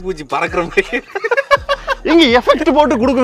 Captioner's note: laughing